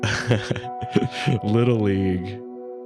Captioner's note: laughs